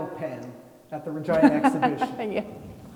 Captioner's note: laughing